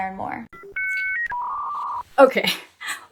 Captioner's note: phone disconnecting